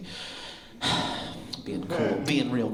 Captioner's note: sigh